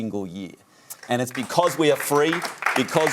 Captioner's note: applause